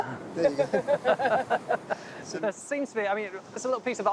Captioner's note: group laughing